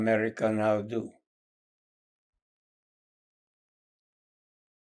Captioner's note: pauses 8 seconds